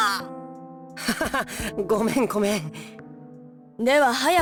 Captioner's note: awkward laugh